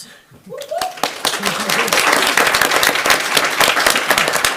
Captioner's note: audience applauding